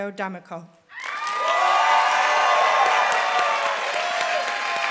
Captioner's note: applause